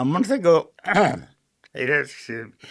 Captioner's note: clearing throat